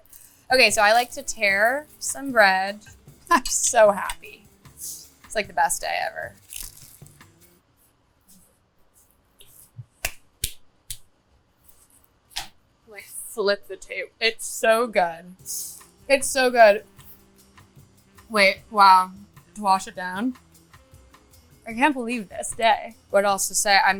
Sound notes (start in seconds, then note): 6.3 bread crunching; 10.0 clapping